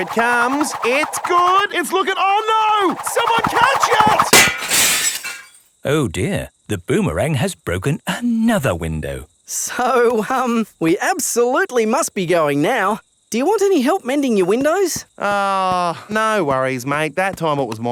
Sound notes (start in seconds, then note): 4.2 shatters